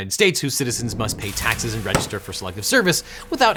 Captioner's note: car engine whirring; air whooshing